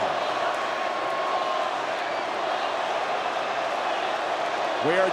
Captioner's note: crowd boos